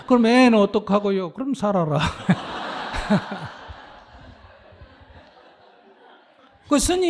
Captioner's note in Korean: 스님 / 청중 웃음